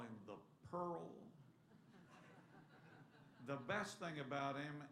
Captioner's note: laughter